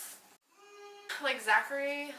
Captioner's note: screams in distortion